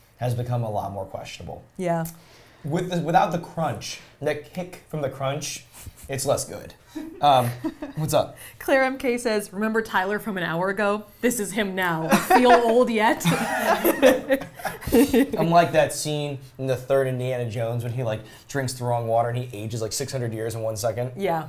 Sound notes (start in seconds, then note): 7.0 chuckling; 12.0 all laughing